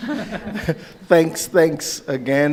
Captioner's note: laughing